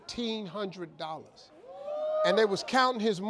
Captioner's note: audience hooting